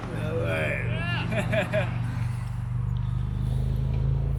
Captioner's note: laughs